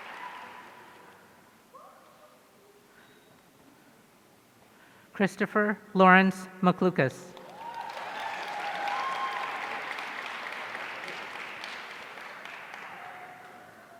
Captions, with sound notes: Kristopher Lawrence McLucas. (audience cheering)